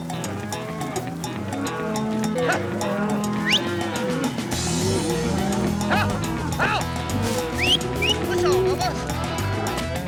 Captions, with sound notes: [MOOING] [WHISTLING] HUP! HUP! [WHISTLING] PUSH 'EM BUBBA!